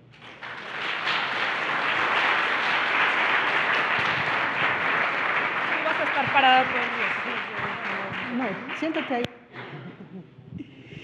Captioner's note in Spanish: Aplausos